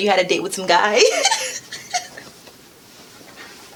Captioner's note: laughs